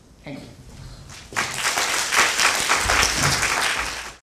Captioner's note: applause